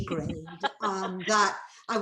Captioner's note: laughing